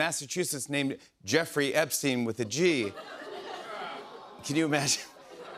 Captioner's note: audience groans